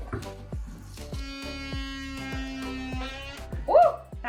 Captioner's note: tool humming